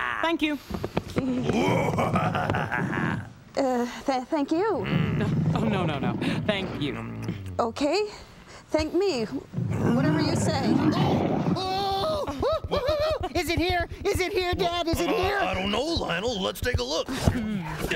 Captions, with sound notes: THANK YOU. WHOA... UH... TH-THANK YOU. OH, NO, NO, NO, THANK YOU. OKAY, THANK ME-- WHATEVER YOU SAY. ( roaring excitedly ) ( squealing ) IS IT HERE? IS IT HERE, DAD? I DON'T KNOW, LIONEL. LET'S TAKE A LOOK.